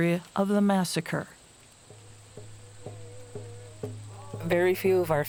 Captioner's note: wind rustling; native music